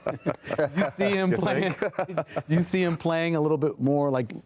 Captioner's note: laughter